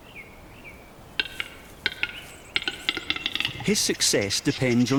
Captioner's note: bird makes clicking sound